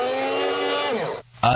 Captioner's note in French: bruit de robot ménager style moulinette